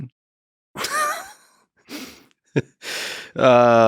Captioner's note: Lex laughing